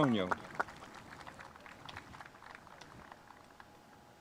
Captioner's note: spectators applauding